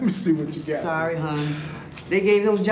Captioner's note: laughing